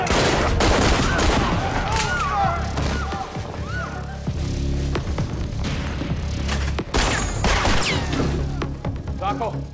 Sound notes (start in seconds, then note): 0.9 yells; 2.4 gunshots